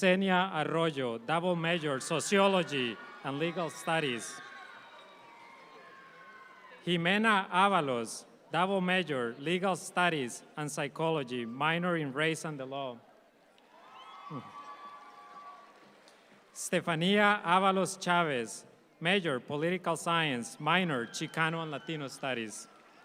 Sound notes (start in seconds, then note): 1.8 audience applauds; 13.6 audience applauds